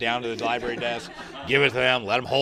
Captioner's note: laughter